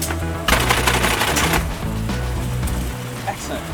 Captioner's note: upbeat rock music; machinery clacking